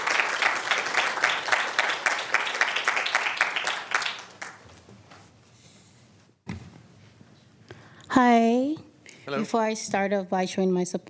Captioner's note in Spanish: Aplausos